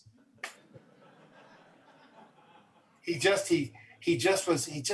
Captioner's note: audience laughs